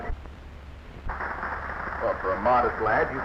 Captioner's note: audience applauding